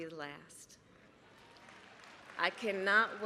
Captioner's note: applause